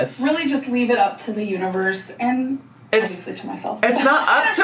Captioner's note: none